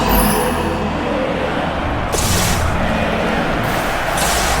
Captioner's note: crowd